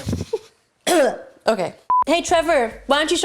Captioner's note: laughs; coughs loudly